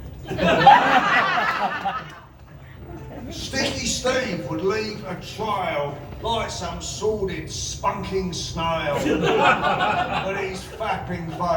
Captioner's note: laughter